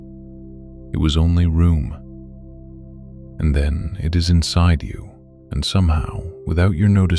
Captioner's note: low voice